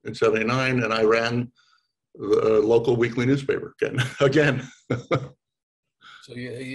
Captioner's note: laughs